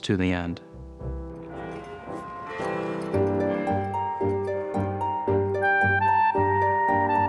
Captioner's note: church bells ringing